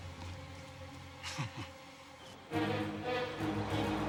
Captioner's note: Paris chuckles; tense music